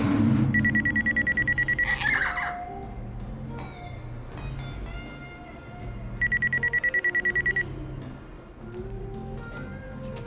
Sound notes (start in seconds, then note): 0.5 phone ringing; 1.4 kitty squawks